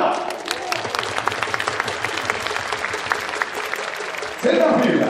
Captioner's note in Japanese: 拍手